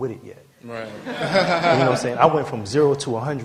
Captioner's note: laughter